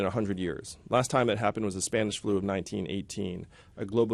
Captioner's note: none